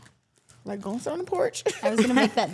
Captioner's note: laughs